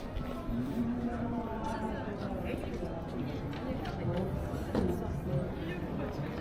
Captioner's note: people chattering